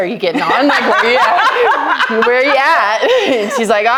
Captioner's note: laughing